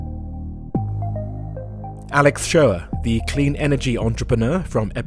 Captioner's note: voiceover